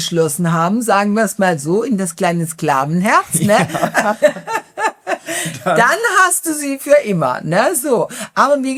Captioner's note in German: gelächter